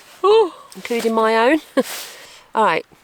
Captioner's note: giggle